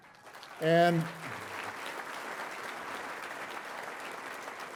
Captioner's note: audience applauding